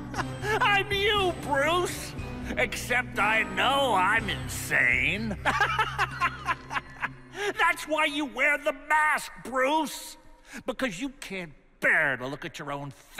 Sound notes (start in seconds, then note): 5.4 laughs